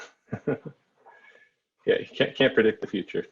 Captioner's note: laugh